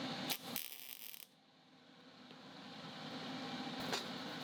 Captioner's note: flame sparking